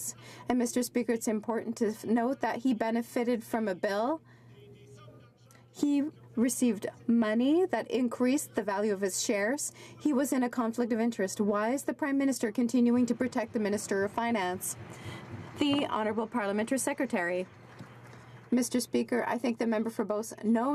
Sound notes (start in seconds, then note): 17.7 some Applause